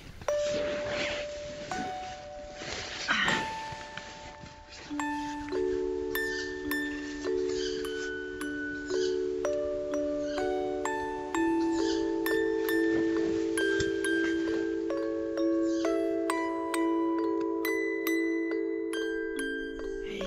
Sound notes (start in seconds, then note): 7.5 squeaky bird; 11.7 annoying squeaky bird; 15.6 annoying squeaky bird